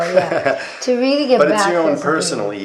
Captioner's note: laughter